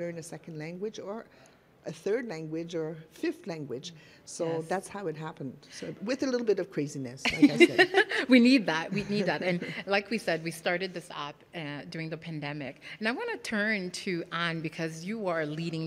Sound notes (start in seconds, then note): 8.9 laughing